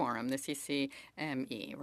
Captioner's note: speaking French